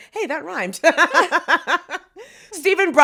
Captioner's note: both laugh